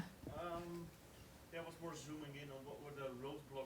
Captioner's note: voiceover